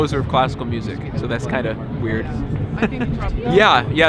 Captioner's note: laughing